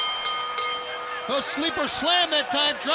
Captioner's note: bell ringing